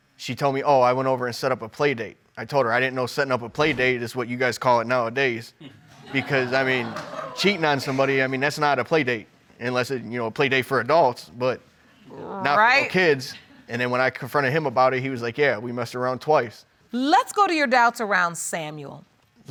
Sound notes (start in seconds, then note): 5.7 audience laughs